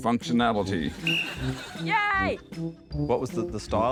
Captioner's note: blows whistle